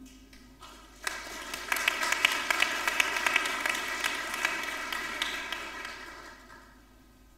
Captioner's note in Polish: oklaski